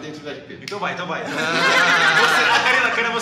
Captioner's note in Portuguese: Risadas